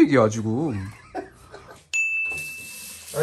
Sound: bitter laugh

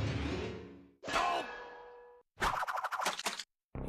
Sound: Sam groaning

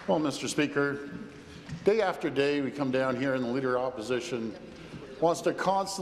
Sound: applause

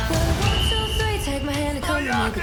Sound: whistle blows

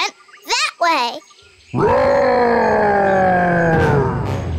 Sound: roaring

